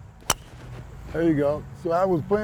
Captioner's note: sound of club hitting the ball